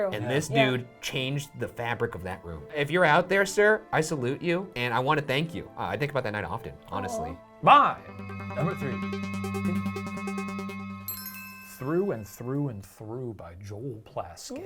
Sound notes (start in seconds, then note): 9.0 suspenseful music; 11.0 chimes dinging